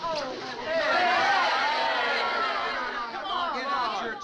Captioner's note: crowd groans